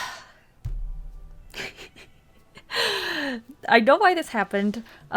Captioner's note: subtle laughs that nearly resemble tears